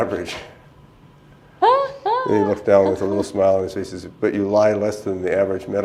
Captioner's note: laughter